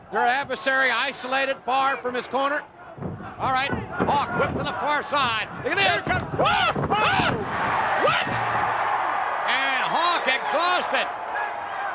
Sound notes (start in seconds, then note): 6.8 King screeches